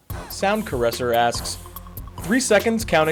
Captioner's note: voiceover